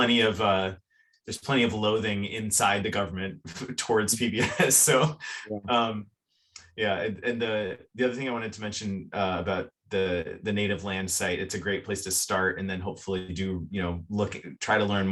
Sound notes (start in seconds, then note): 4.2 chuckles